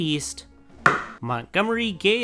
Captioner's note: slam